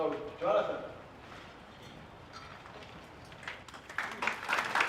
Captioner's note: audience applauds